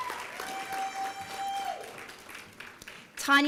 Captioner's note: applause and cheering